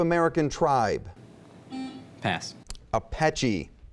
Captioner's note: buzzing